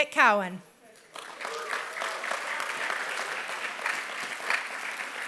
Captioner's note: applause